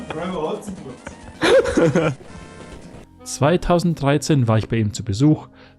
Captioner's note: laughter; voiceover